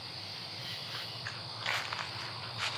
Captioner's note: footsteps